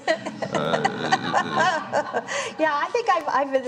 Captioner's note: laughter